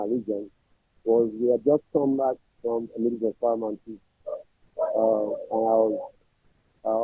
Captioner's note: voice muffling